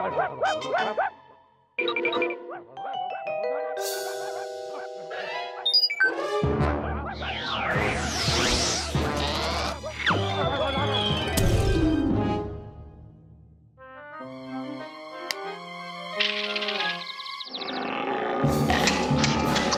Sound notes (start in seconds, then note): 0.0 barking; 5.6 beeping; 7.5 barking and mumbling continue; 16.0 birds tweeting; 17.7 alligators growling